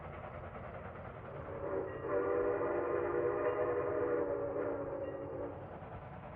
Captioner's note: train whistling